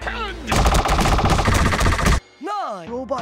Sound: rapid-fire meat-beating sounds

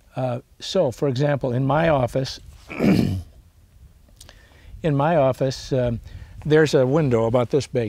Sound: clears throat

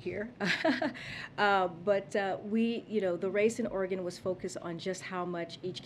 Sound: laughs

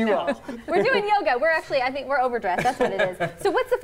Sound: laughter

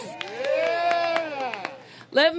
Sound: applause

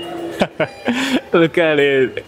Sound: chuckles

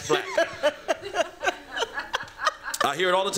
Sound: laughter

